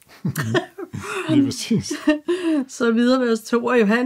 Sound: laughs

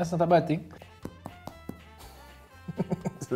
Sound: thumping; laughing

